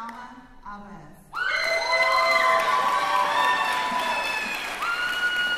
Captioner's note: cheering